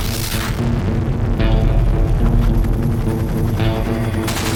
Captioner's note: rocket blast